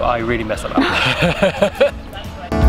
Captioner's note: both Laugh